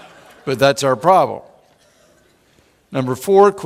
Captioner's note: laughing